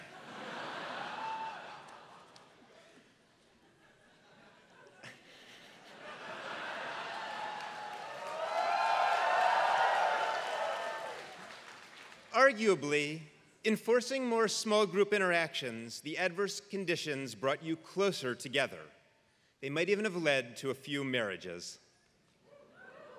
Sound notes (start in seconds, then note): 0.3 laugh; 6.8 applause